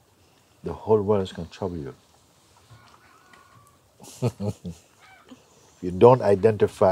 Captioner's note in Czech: směje se